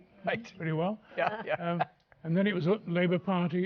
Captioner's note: laughs